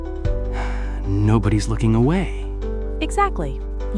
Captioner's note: A long, shaky breath releases